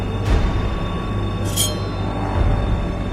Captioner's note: knife wipe